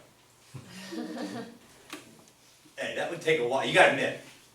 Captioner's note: class laughs